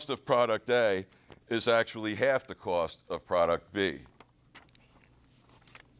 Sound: page turns

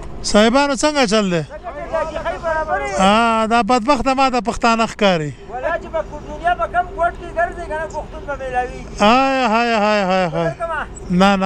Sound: speaking in Pashto

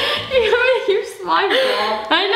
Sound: laughing

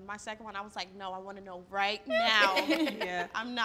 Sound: laughing

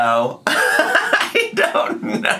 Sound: laughing

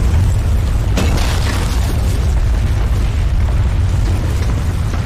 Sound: loud rumbling; rocks falling

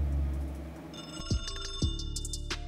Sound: phone ringing

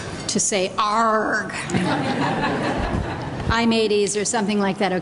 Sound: laughter

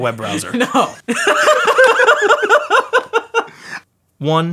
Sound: laughing

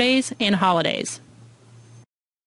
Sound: silence

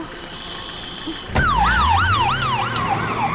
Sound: police siren

